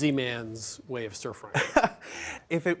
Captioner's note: laughs